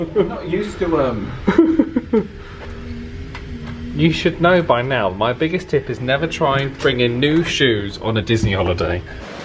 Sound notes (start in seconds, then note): 1.3 laughs